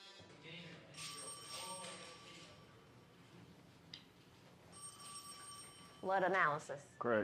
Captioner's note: officers chattering; phone ringing